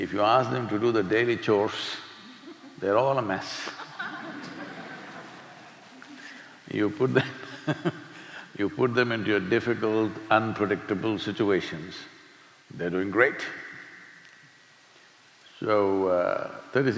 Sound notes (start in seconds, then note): 3.6 laughter; 7.1 laughs